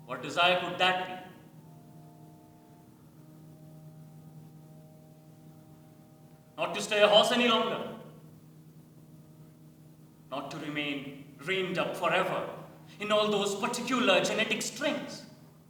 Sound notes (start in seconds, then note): none